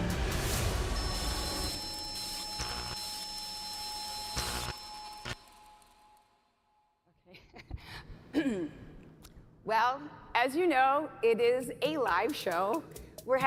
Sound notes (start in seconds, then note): 0.9 static buzzing